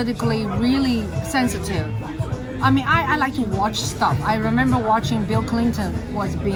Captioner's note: on TV